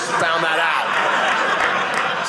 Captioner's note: audience laughing